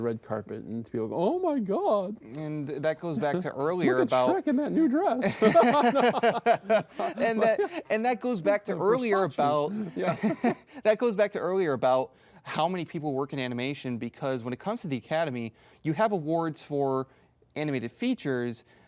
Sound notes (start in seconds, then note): 7.1 both laugh; 9.8 both chuckle